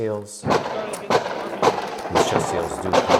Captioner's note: gun loudly firing